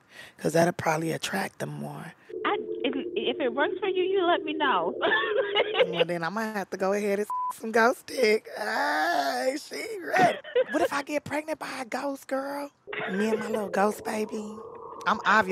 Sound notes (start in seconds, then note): 4.7 laughing; 7.3 beeps; 12.9 laughing